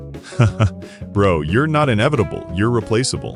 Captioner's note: laugh